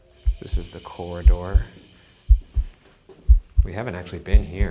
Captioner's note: loud heartbeat